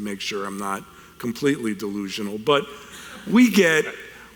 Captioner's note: audience chuckles